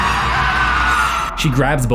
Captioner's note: Carlos screams; wailing scream